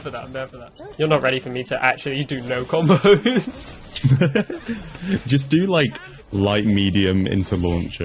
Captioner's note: laughing